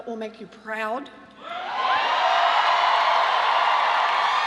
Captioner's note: cheering and applause